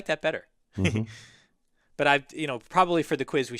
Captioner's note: laugh